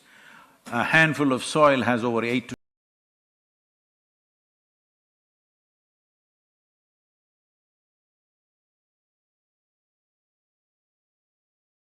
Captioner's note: audio cut